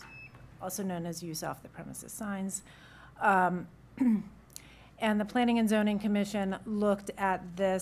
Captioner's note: clears throat